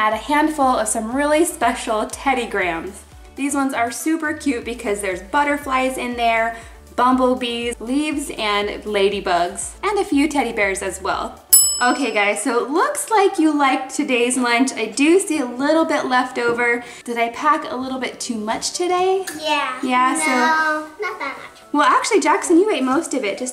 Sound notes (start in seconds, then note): 11.5 bell dings